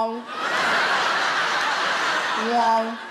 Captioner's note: audience laughs